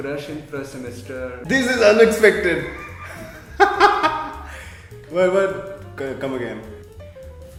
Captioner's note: continues his evil laugh in background